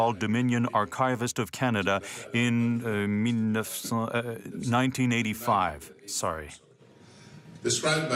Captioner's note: speaking french